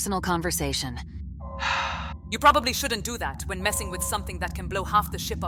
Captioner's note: sigh